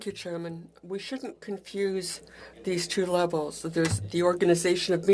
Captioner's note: speaking French